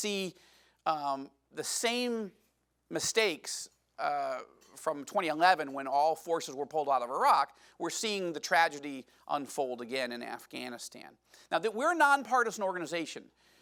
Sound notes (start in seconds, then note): none